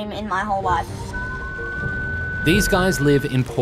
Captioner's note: alarm beeps